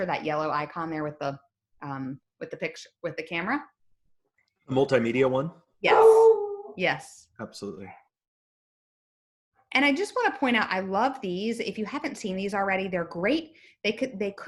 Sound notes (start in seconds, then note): 5.8 dog howls; 8.6 dog barking